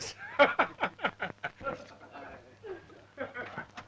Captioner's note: laughing